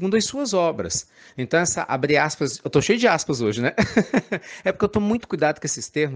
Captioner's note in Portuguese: risadas